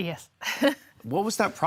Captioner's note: chuckle